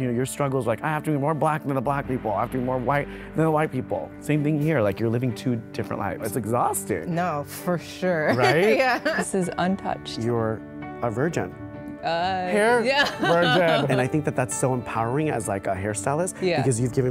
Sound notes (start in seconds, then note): 12.5 woman laughs